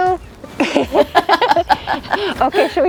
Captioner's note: both laugh